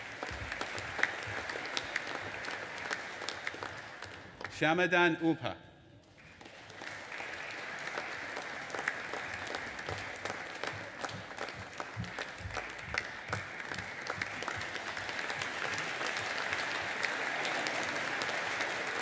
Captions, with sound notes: (AUDIENCE APPLAUDING) Shamadan Upha. (AUDIENCE APPLAUDING)